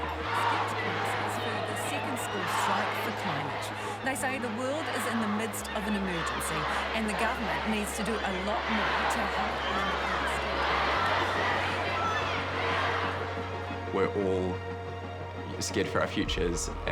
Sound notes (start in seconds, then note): 0.1 crowd chanting; 10.6 crowd chanting